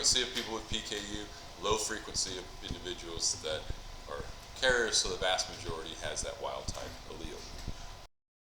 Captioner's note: mic cuts out